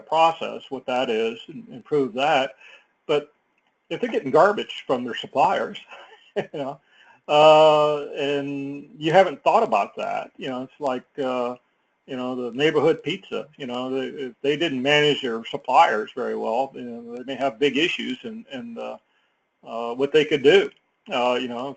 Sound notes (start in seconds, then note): 5.8 laugh